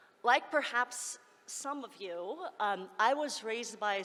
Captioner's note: none